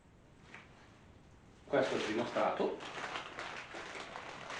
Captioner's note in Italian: Applauso